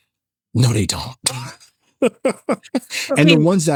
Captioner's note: laughing